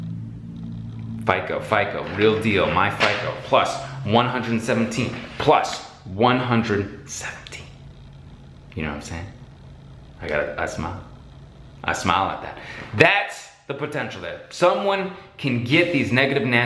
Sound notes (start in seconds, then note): 6.2 whispers